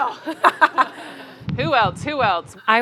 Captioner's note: audience laughing